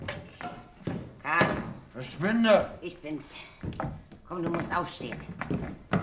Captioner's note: Schritte nähern sich